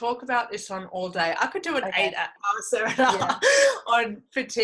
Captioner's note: laughs